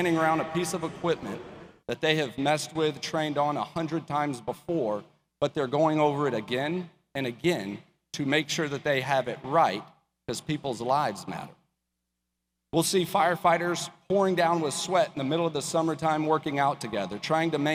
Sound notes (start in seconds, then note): none